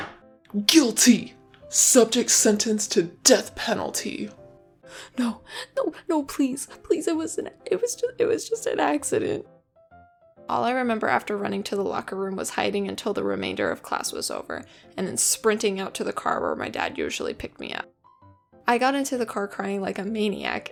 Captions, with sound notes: “GUILTY, SUBJECT SENTENCED TO DEATH PENALTY” *incoherent crying and apologizing* All I remember after running to the locker room was hiding until the remainder of class was over and then sprinting out to the car where my dad would usually pick me up. I got into the car crying like a maniac